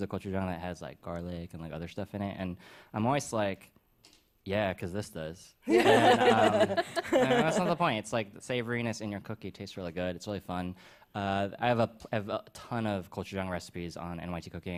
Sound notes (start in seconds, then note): 5.6 laughter